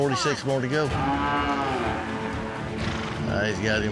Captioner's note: cows mooing